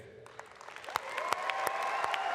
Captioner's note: applause